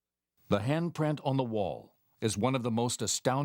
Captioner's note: voiceover